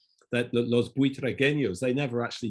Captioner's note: speaks foreign language